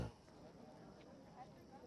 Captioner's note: indistinct chatter